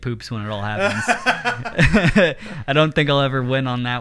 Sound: laughing

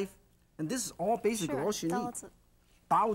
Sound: speaking foreign language

